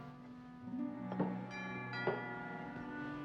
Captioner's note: doorbell rings